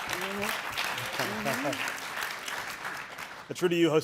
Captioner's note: audience applauding